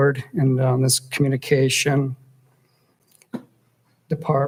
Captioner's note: audio skips